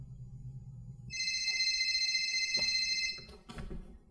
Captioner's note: phone rings